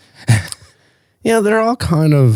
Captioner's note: laughs